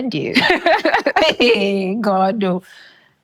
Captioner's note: laughing